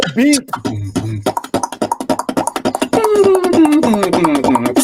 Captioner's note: beatboxing